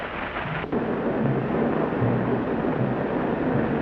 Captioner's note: machines whir